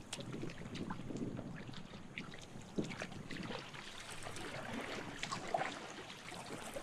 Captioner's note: water splashing